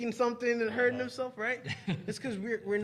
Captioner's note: laughing